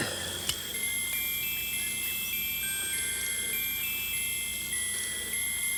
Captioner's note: pocket watch chimes melodically